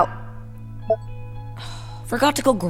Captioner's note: recorder beeps off